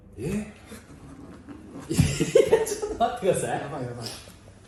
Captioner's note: laughter